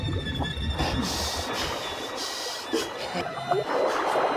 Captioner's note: grunts; gasping; water bubbles